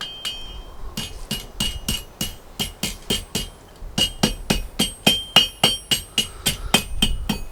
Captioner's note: metal hammer tinking on anvil